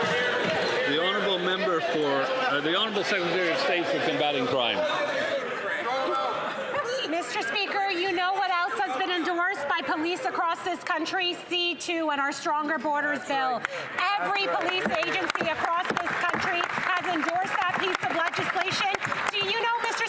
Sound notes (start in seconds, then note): 0.0 some Applause